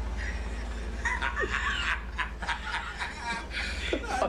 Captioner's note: laughs